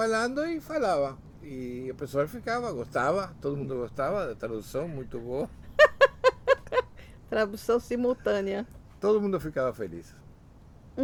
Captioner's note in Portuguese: risos